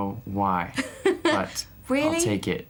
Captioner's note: interviewer 1 chuckles